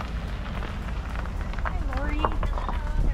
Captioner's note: car driving on drive way sounds